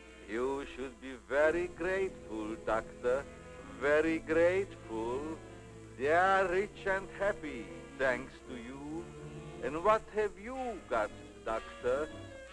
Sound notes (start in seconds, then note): none